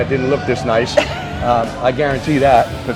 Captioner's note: laughing